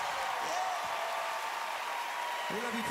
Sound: cheering, applause

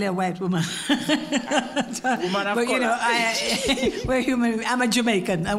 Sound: laugh

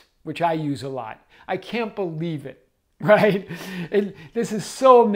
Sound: chuckles

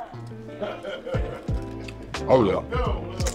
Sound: customer #1 laughs

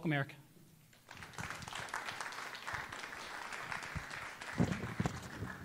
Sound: audience applauding

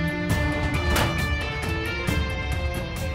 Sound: van door closes

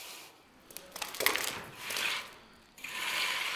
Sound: crackling; grinding

